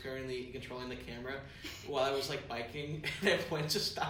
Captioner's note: laughs